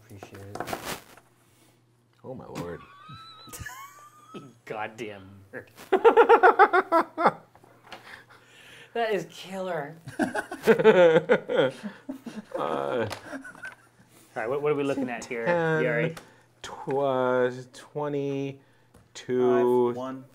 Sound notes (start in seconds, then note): 2.7 laughing; 5.9 laughing